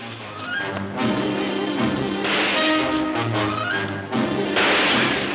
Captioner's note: dramatic music; gunshots banging